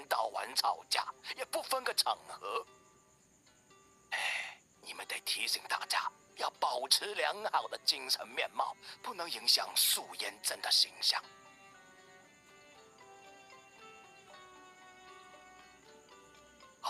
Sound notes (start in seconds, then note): 4.1 sigh